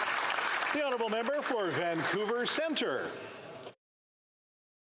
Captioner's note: some Applause